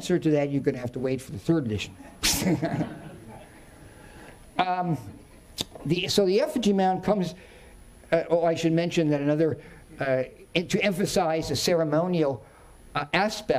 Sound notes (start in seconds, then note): 2.0 chuckling; 2.1 audience chuckling